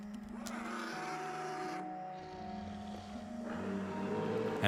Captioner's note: creatures grunting